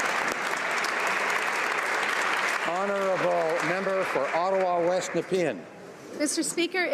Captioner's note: applause